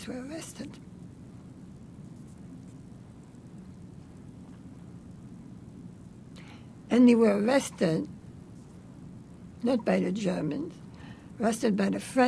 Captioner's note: pauses 6 seconds